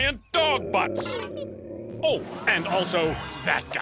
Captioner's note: growling